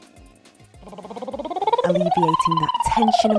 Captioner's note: trilling